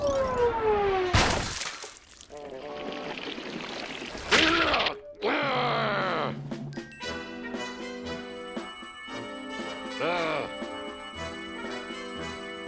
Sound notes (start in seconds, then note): 1.1 splat; 5.1 growling; 5.2 grunts; 9.8 grunts